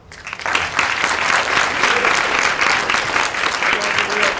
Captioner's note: applause